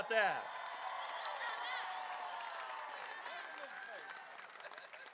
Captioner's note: crowd cheering